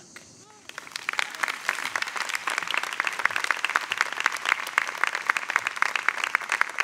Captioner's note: crowd applauds